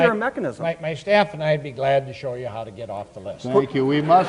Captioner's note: audience laughs